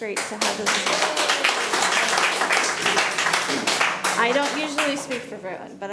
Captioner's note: audience applauding